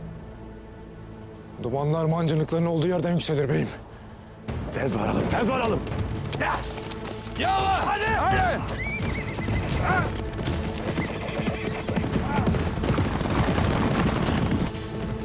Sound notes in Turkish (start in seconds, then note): 10.5 At kişneme sesi; 14.9 Müzik - Gerilim